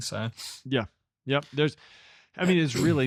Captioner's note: clears throat